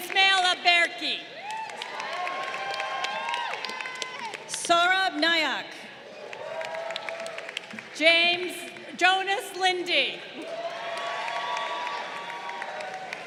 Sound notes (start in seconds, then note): 1.3 crowd cheering; 6.0 crowd applauding; 10.3 crowd cheering